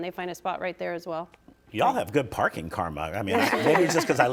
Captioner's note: participants laughing